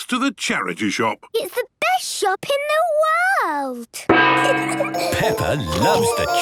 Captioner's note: kids giggling